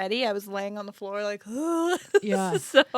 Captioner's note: laughs